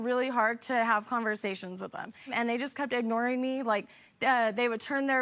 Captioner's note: none